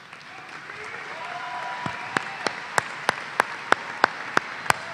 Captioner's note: applause